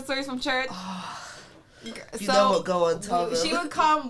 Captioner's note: sighs